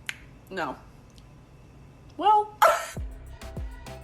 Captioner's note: laughs; bright upbeat music continues